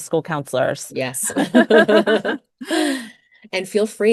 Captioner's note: both laughs